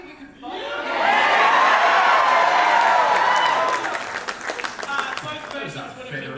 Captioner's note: big cheers from the audience